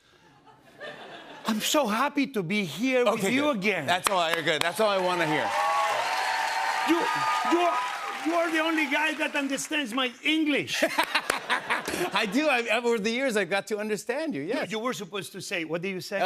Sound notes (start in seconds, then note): 0.2 laughter; 5.6 cheers and applause; 10.7 laughter